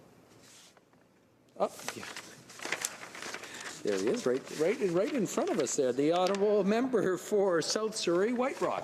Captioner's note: speaking French